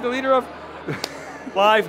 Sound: laughs

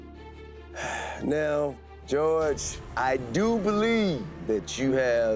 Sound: sighing

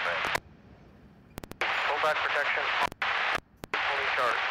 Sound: radio chatter

